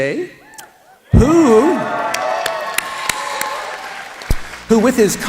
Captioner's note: applause